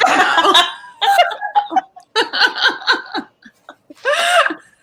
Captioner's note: all laughing